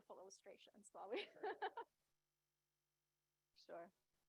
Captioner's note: laughs